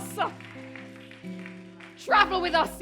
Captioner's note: applause